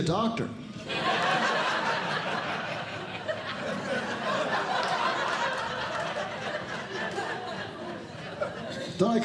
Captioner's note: audience Laughing